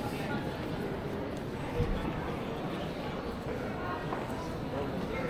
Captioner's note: people chattering